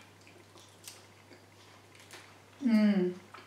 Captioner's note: munching